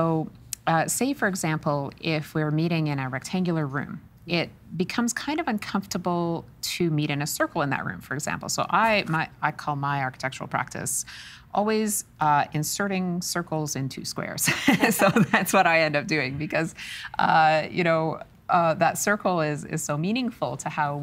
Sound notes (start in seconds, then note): 14.5 laughing